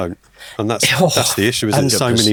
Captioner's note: groaning